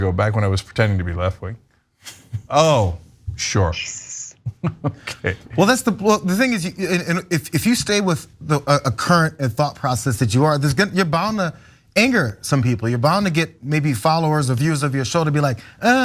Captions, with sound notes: back when I was pretending to be left wing. Sure [LAUGH] okay. >> Well, that's the thing is, if you stay with a current thought process that you are, you're bound to anger some people, you're bound to get maybe followers of use of your show to be like I'm not into that.